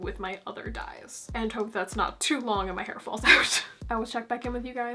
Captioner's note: laugh